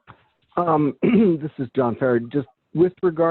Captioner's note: clears throat